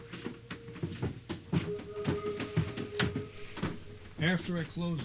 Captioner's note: footsteps